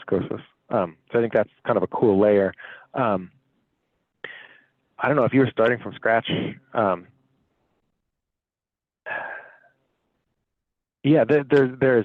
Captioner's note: sigh